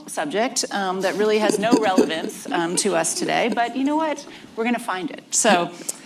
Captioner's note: laughter